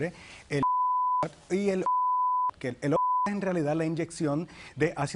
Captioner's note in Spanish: Bip